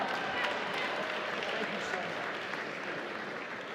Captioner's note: applause